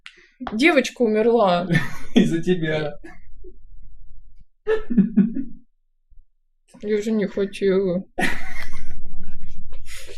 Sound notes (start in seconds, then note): 4.6 laughs